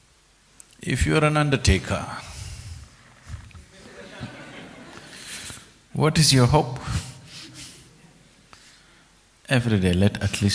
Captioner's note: laughter; 笑聲